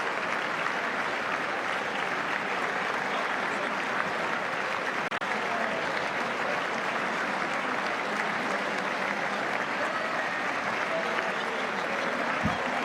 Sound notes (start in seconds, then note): 2.1 applause